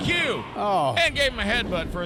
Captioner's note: Scott groans